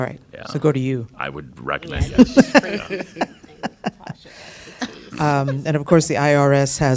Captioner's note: laughter